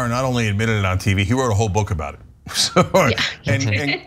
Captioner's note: laugh